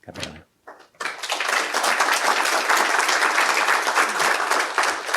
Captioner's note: applause